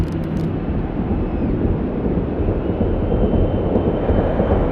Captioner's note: building crowd noise